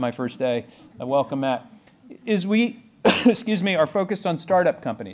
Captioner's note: coughs